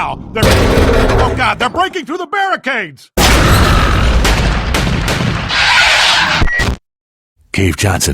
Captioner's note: crunching noises